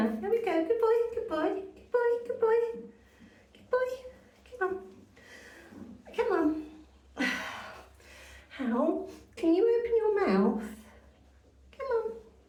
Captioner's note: sigh